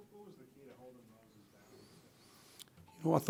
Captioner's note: voiceover